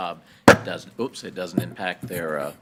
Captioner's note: mic banging